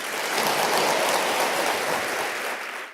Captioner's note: audience clapping